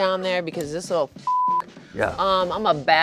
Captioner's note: beep